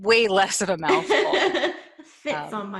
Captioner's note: laughs